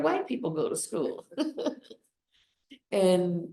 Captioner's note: laughs